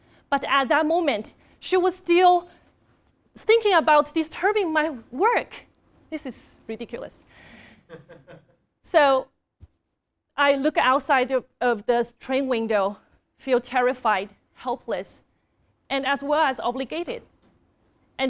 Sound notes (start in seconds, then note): 7.9 laugh